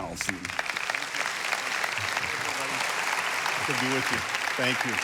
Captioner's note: congregation applauding